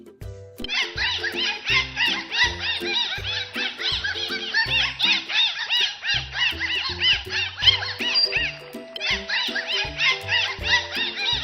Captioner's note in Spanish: Sonido delfines